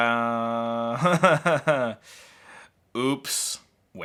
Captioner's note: laughs